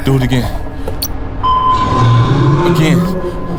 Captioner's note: sonar pinging